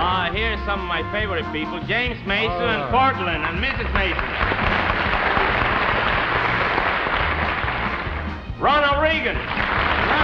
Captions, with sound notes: HERE'S SOME OF MY FAVORITE PEOPLE JAMES MASON AND PORTLAND AND MRS MASON (AUDIENCE APPLAUDS) RONALD REAGAN